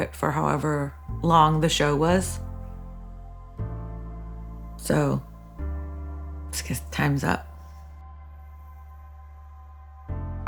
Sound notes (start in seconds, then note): none